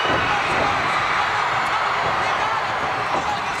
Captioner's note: crowd cheers